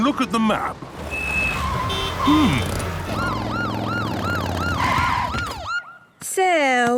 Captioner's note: honking, sirens